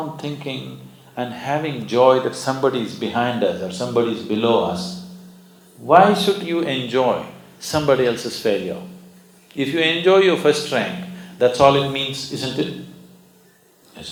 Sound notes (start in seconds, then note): none